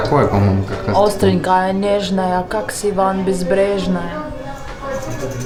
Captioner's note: rhymes in Russian